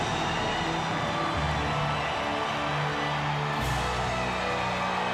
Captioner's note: audience cheers